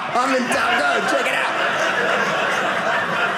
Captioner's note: audience laughing